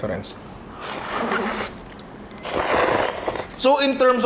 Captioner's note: slurps